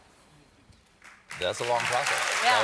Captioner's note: applause